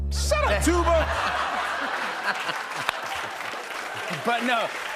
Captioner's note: laughter and applause